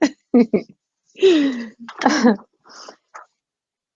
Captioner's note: giggles